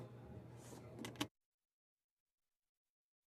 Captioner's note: speaking French